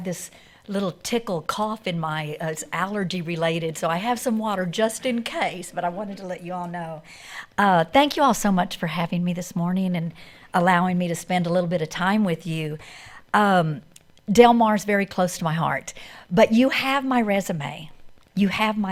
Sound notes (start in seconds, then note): none